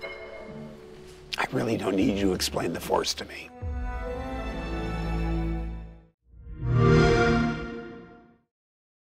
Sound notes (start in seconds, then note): 6.4 xbox sound